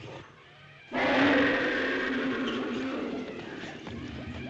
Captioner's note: roaring